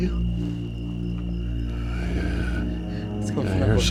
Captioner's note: growling